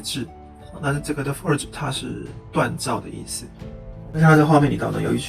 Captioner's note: explaining "forge" in Mandarin